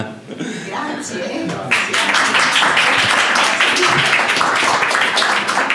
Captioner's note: applause